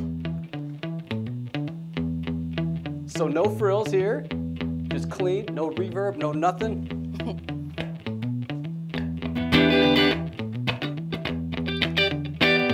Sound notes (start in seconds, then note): 7.1 laughing